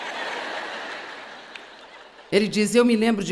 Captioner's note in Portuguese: audiência ri